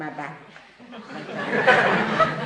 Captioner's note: laughter